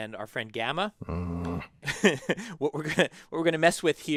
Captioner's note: laugh